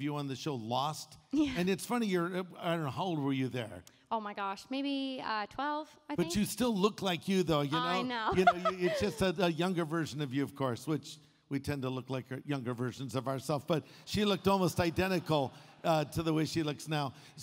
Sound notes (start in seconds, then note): 7.6 laughs